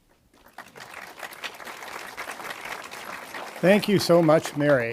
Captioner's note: audience applauding